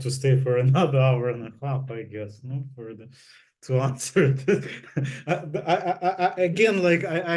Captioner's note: laughs